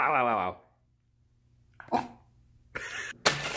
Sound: barks adorably

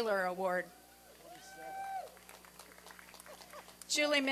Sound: applause and cheering

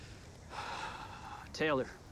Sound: Kip sighing

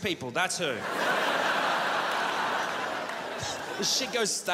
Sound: crowd laughs

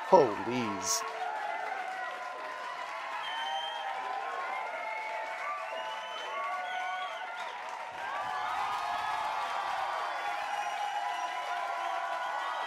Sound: crowd cheering and clapping

